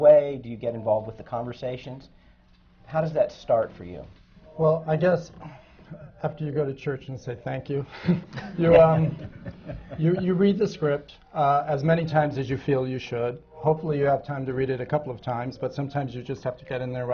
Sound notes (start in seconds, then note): 8.1 laughter